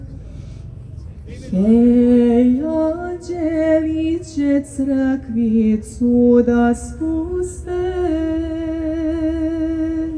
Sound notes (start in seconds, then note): 0.2 breath; 4.1 singing